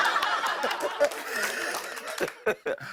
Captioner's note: laughter; laughs